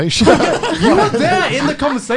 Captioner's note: laughs